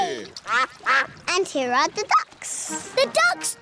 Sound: quacking

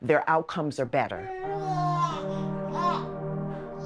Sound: baby cooing

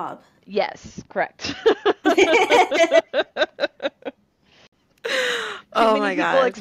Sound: laughter

